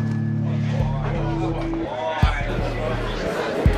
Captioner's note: chatter